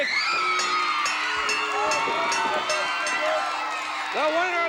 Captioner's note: bell dinging